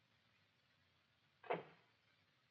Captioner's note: door shuts